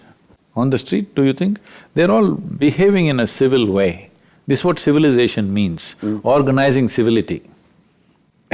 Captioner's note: laughs